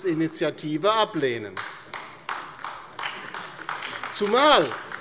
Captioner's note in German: Beifall bei der LINKEN